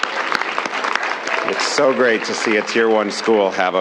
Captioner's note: applause